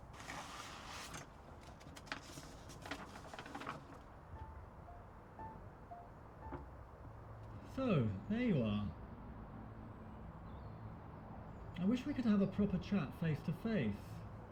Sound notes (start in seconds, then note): 0.0 paper scraping; 1.9 paper rustling; 4.3 gentle thoughtful music